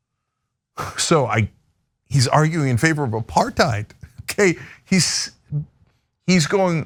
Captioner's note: laugh